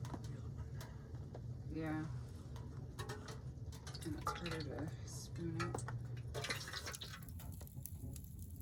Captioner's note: liquid wax sloshing